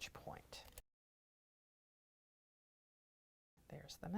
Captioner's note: no Sound Present